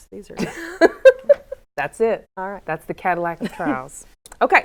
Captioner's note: laughs